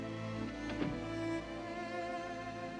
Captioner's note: door closes